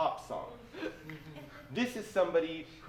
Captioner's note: laughter